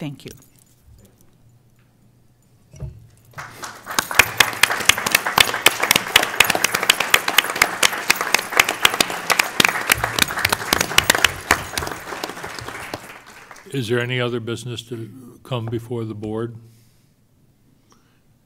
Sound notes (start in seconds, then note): 4.9 applause